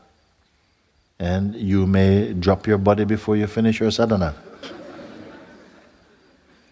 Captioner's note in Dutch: gelach